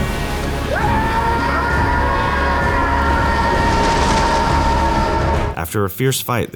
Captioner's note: screaming